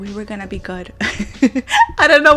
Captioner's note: giggles